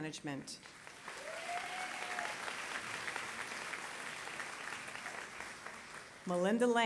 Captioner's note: applause